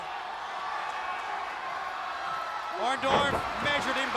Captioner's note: crowd chatter